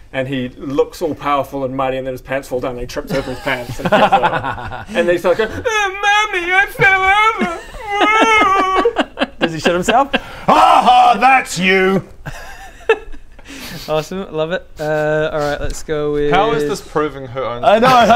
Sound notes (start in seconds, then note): 6.7 wails like a baby